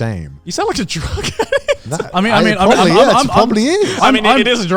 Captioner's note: laughs